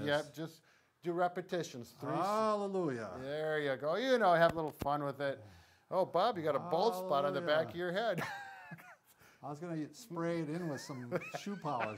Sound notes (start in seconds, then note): 8.1 chuckles